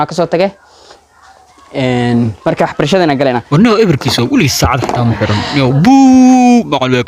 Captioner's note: sudents talking